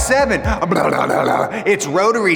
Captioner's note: imitates motor rumbling